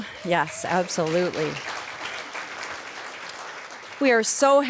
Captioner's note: applause